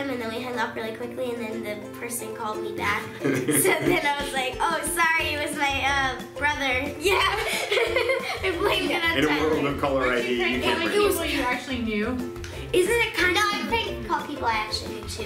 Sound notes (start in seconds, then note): 7.0 laughing